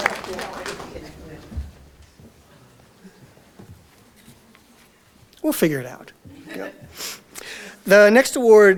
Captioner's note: audience Laughter; audience Applause